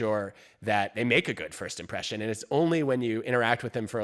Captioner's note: none